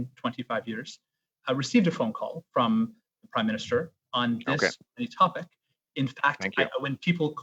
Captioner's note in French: voix de l'interprète